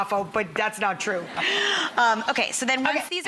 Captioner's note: laughter